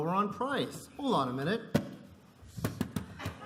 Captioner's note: laughter